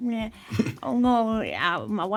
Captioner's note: SungWon chuckles